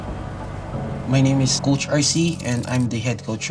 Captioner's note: in English